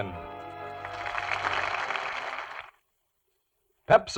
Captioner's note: audience applauding